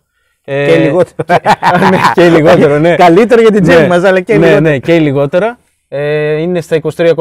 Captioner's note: both laugh